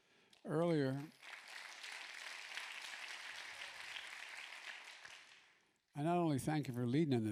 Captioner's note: applause